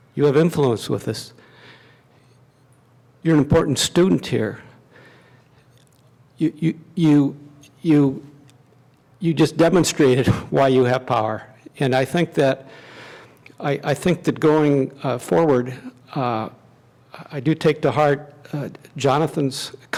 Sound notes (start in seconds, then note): none